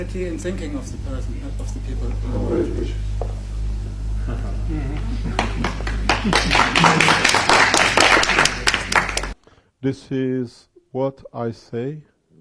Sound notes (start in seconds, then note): 5.2 clap, clap